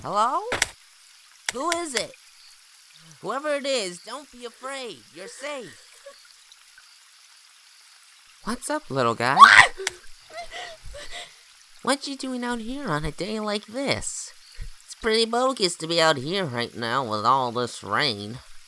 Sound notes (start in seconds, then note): 9.3 shrieks; 10.3 whimpers